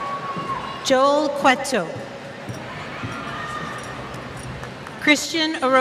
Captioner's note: cheers